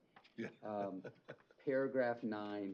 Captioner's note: chuckle